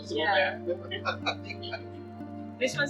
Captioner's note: laughs